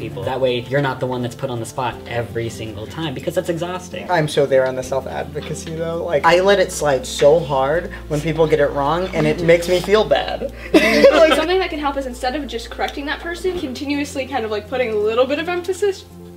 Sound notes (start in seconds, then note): 10.4 laughter